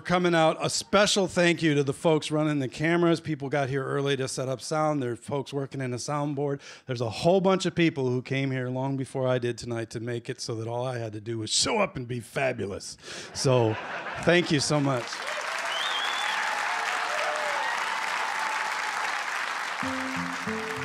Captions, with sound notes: A special thank you to the folks running the cameras. People got here early to set up sound. There are folks working in the soundboard. There's a whole bunch of people who came here long before I did tonight to make it so that all I had to do is show up and be fabulous. [laughter] So, thank you so much. [cheers and applause] [acoustic guitar]